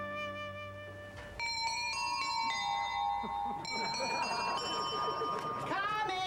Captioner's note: doorbell plays